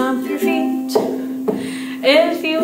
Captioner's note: stomps